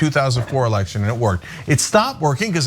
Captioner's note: laugh